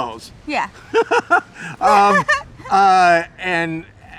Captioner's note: laughing